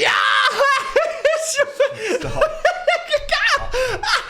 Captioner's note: Dan laughs